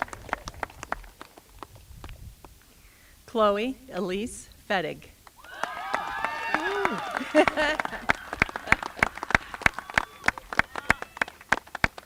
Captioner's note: applause